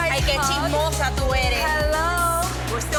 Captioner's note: speaking Spanish